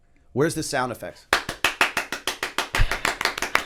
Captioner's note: applause